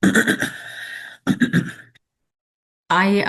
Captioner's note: clears throat